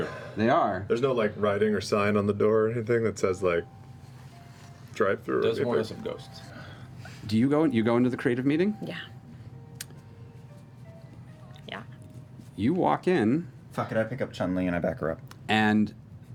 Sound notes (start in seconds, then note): none